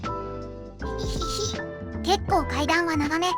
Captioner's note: pant, pant